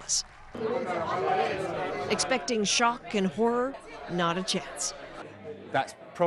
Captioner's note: indistinct chatter